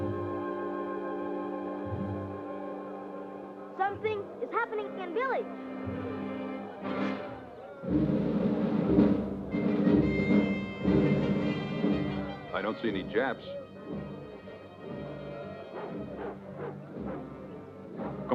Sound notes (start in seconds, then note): 5.9 crowd chattering; 14.8 people chattering; 15.6 dog barks